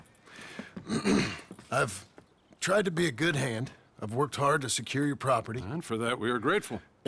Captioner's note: clears throat